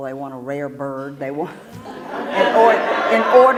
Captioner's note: laugh